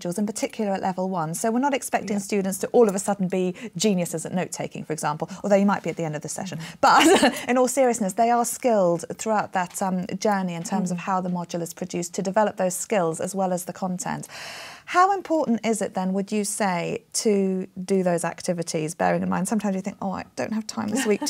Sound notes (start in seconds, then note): 6.9 laughs